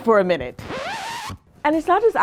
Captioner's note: record scratching